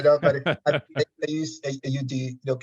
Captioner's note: audio distortion